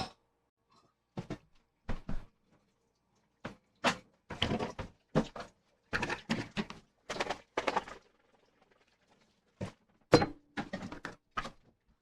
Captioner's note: jar liquid sloshing